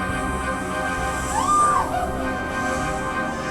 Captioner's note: screaming; snake hissing